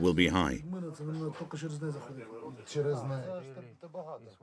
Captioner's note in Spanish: Audio hablado en ucraniano